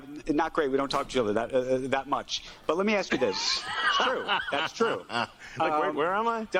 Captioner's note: off-screen laughter